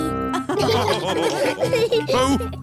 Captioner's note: all laughing